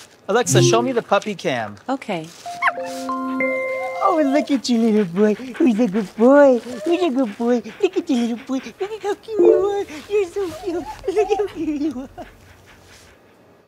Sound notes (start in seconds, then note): 3.7 dog whimpers; 9.4 device chimes